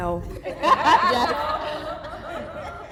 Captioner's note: laughter